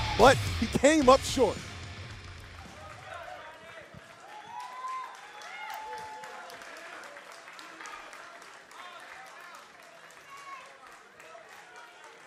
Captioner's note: cheers and applause